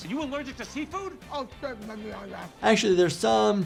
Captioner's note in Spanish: Actriz murmurando